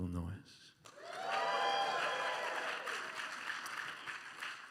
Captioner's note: some cheering and applause